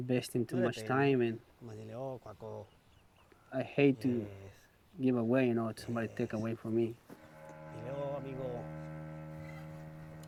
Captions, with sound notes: YOU INVESTING TOO MUCH TIME IN. [speaking Spanish] I HATE TO GIVE AWAY, YOU KNOW-- SOMEBODY TAKE AWAY FROM ME. HELLO, AMIGO.